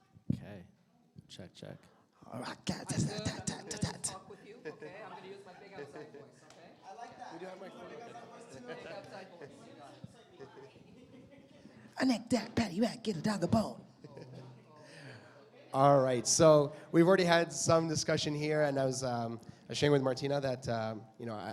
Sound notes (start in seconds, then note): 2.3 chattering